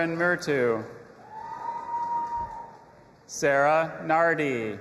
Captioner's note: audience applauding and cheering